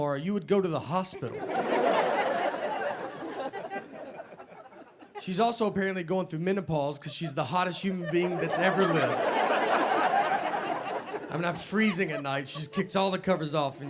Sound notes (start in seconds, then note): 1.0 audience laughing; 9.8 audience laughing